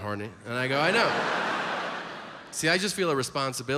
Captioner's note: audience laughs